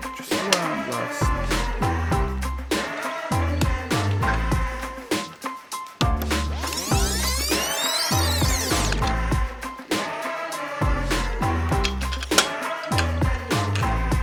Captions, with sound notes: Just one last. [Rewinding]